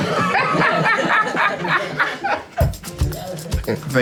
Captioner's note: everyone cracks up